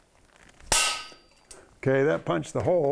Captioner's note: hammer clang